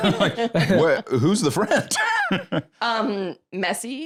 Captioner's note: laughs